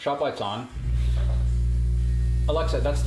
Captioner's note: compressor whirring